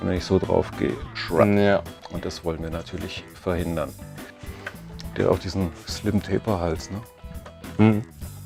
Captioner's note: Scratch